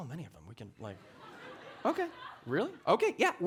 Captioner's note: audience laughing